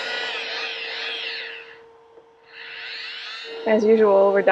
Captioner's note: buffer buzzes